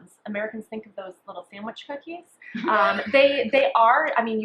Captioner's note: laughs